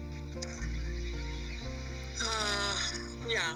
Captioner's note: sighs